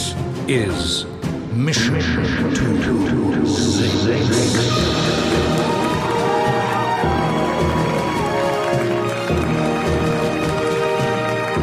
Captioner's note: reverb starts